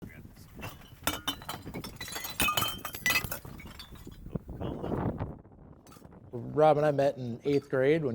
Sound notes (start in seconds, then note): 0.6 glass rattling